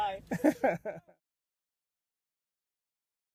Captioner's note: laughs